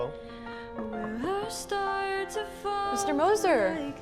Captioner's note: knocking on desk